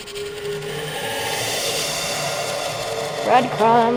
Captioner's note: distorted EVP chattering